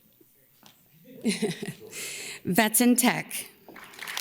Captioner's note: laughs; audience claps and cheers